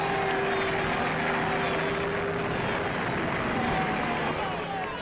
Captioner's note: Applaus